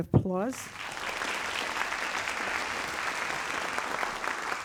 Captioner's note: audience applauds